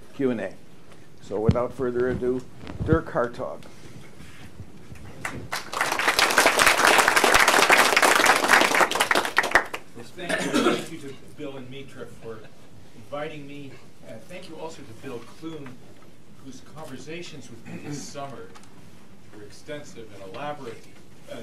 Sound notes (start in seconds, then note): 5.0 applause